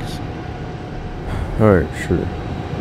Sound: sigh

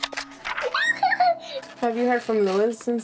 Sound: laughing

